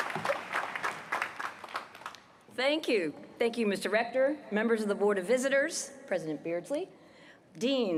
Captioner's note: applause